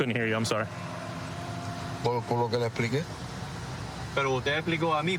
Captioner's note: speaking spanish